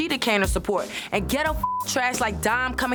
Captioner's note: beep